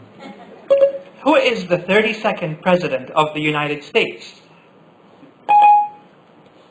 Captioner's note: Siri beep